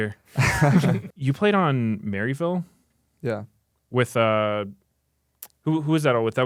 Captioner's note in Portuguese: risos